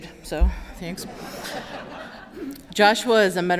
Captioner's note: laughter